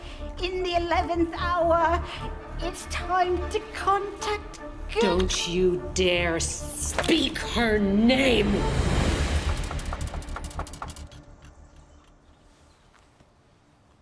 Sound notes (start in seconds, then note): 9.4 knocking on door; 11.2 birds chirping